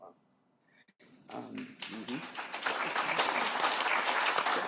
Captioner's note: applause